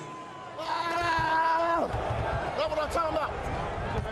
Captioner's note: screams